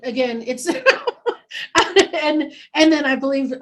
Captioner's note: laughing